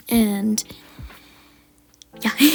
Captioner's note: looong breth